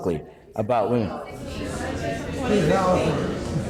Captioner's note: chatter